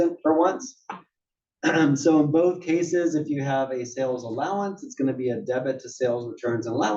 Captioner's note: cough